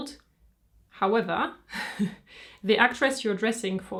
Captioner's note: chuckles